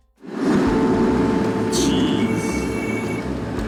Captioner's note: truck horn blaring